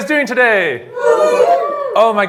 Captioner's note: cheering